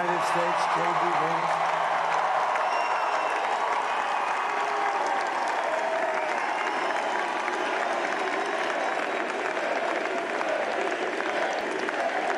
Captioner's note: applause